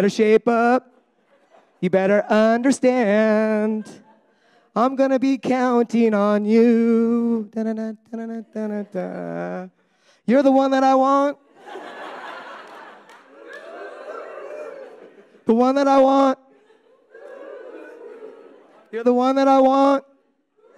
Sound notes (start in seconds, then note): 8.0 audience humming; 11.7 audience humming; 17.2 audience humming